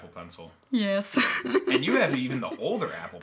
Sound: giggles

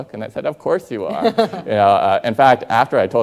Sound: Rachel laughing

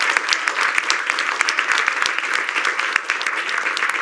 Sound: cheers and applause

